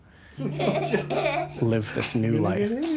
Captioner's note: both laugh